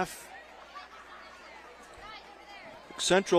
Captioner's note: laughter